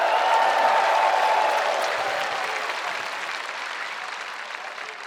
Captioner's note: spectators cheering; spectators applauding